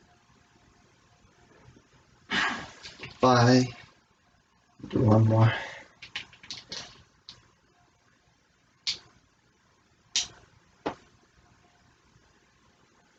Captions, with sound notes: (Grunt) Five. We'll do one more.